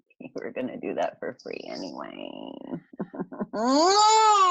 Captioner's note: laughs